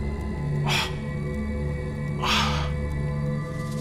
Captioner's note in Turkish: İnleme sesi